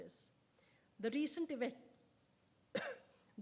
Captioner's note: coughs